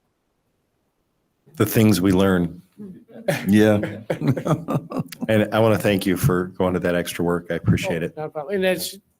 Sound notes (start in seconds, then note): 2.9 laughing